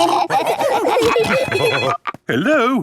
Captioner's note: laughing; phone ringing